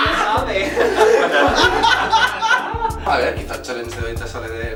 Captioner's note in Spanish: Risas